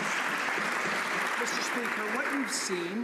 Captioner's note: some Applause